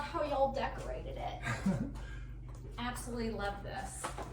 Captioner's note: chuckles